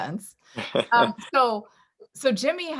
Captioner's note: laughing